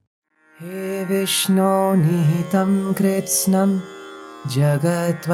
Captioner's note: man chants in Sanskrit